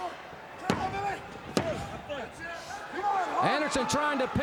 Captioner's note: hand slams